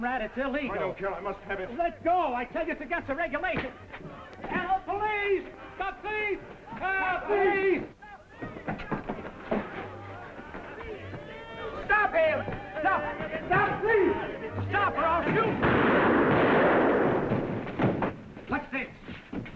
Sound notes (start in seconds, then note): 15.5 gunshot firing